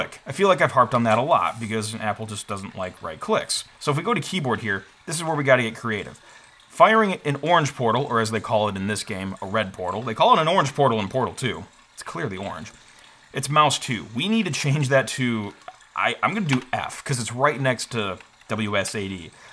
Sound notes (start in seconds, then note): none